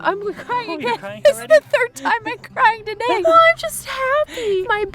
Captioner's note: giggles